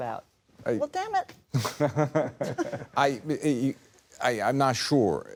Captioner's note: laughs